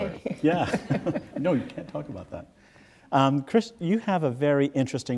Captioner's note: laughs